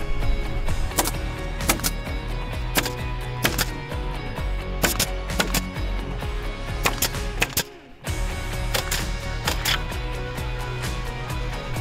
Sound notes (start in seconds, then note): 1.0 nail gun popping